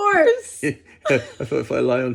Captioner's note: both laugh